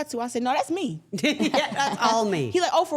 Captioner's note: interviewers laughing